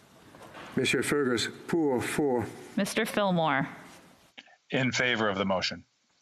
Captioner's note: speaking French